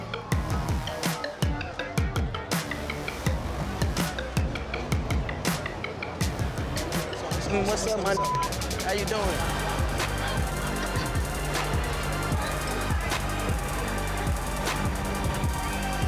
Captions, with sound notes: What's up my (beep)? How you doin'? (upbeat electronic music)